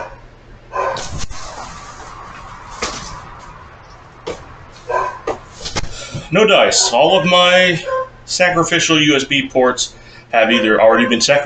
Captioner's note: dogs barking... rythmically